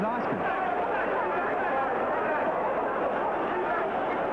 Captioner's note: crowd cheers